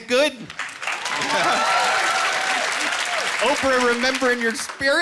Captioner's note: cheering